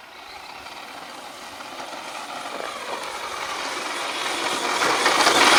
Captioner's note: remote control car whirs loudly